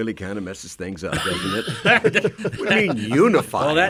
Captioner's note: men laugh